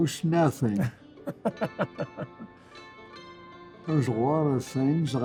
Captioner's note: laughter